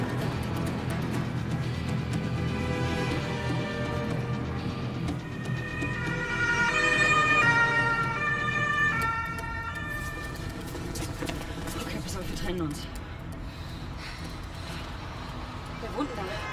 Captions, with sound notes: (police sirens approaching) Ok, listen. We split up. Whose adress is this?